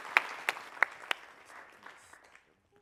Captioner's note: applause